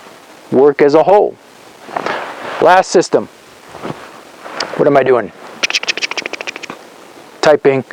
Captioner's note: typing sounds